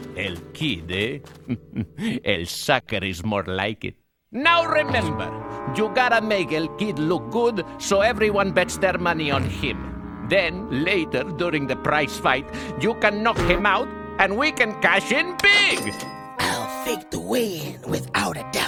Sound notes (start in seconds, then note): 1.4 chuckling